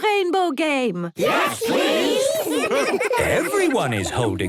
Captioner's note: laughter